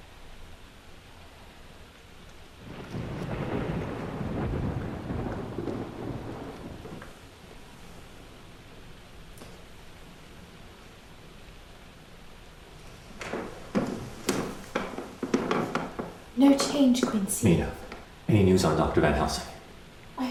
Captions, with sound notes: (thunder rumbles) - No change, Quincy. - Mena, any news on Dr. Van Helsing?